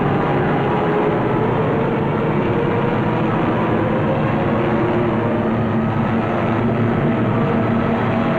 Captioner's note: heavy gunfire and plane engines